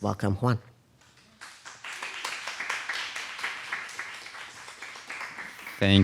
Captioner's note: audience applauding